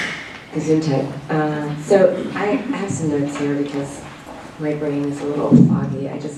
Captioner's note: non-english